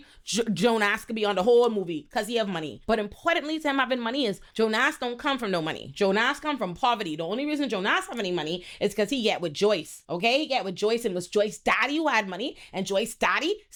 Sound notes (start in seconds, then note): none